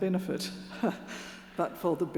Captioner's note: chuckles